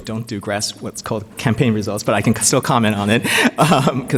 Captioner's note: laughs